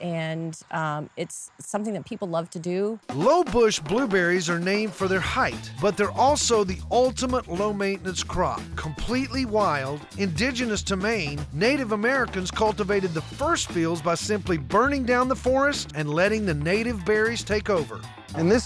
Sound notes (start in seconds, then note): none